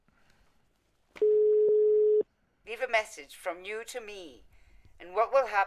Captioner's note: on answering machine